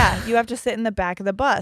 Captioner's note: chuckles